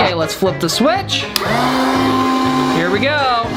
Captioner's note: vacuum whirring